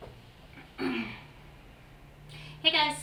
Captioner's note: clearing throat